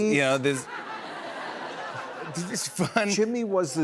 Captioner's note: laughter